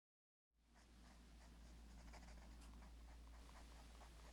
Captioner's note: pencil scratching on paper